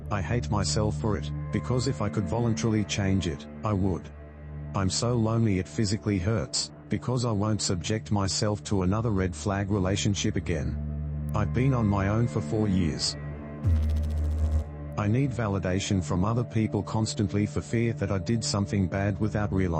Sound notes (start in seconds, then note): 13.6 electrical noise